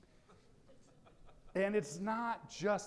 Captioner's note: audience laughing